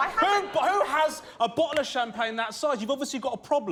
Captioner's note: audience gasps